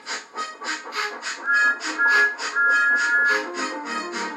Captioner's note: instrumental Music; Thomas' Whistle Blows